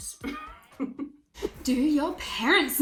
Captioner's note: laughing